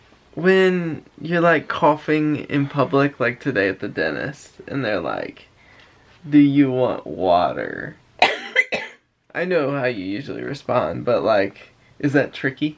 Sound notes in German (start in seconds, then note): 8.2 husten